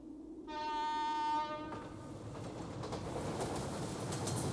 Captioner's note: horn honks